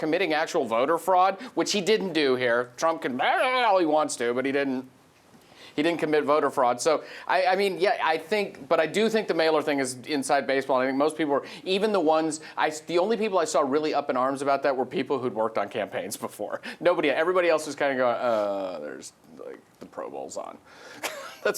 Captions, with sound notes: committing actual voter fraud, which he didn't do here, Trump can (shouts incoherently) all he wants to, but he didn't commit voter fraud. So, I mean, but I do think the mailer thing is inside baseball and I think most people were, the only people I saw up in arms about that were people who'd worked on campaigns before. Everybody else was kinda going, "Uh, the Pro Bowl's on." (laughs)